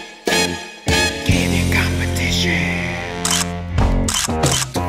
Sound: upbeat music; whispering

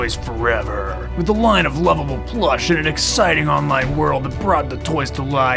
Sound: epic announcer voice

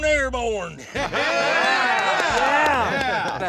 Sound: cheering

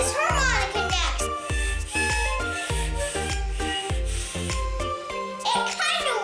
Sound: air quietly whistling

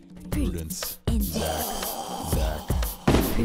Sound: moroaica growling

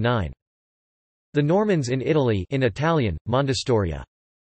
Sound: in Italian

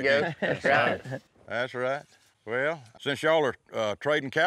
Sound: everyone laughs

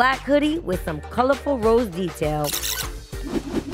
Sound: record scratching

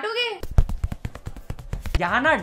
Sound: tapping continues

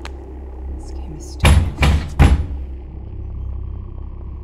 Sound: loud knocks on the door

